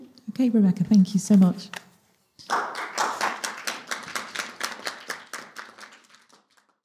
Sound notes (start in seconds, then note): 2.4 audience applauds